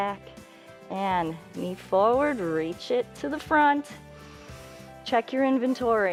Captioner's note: inhales